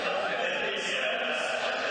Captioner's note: crowd chattering